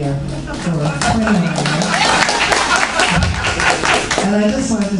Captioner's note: audience Applauding